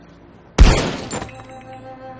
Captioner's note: gunshot